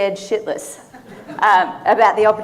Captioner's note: audience laughing